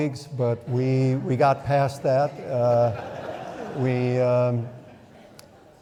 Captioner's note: audience laughing